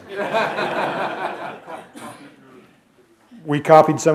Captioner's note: laughter